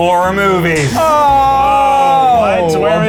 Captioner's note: gasp